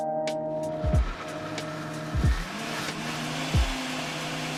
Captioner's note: grinding and buzzing